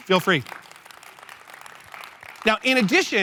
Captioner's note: applause